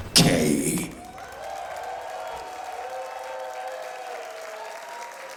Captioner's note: audience applauding